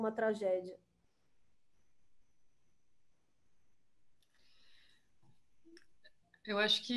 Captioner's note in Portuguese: silêncio